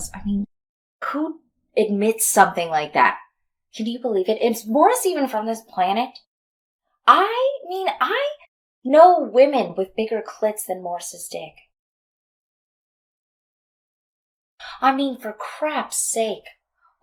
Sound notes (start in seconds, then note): none